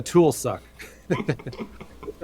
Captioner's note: laughing